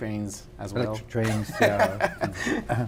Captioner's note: laughs